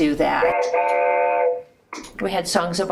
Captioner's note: train horn